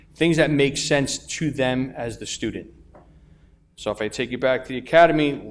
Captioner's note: none